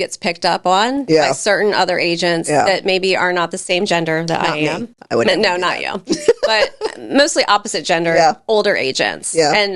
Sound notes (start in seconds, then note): 5.4 laughs